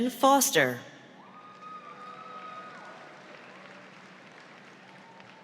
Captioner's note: audience applauds